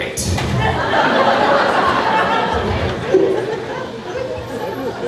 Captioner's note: crowd laughing